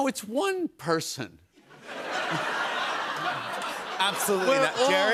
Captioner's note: laughter